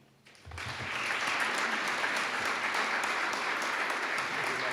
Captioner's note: audience applauding